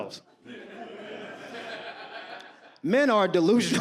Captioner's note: audience laughs